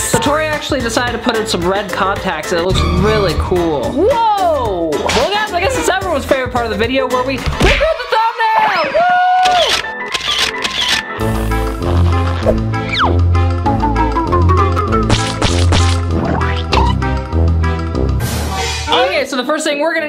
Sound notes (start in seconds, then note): 9.4 photo sound effects; 11.2 spooky music and sound effects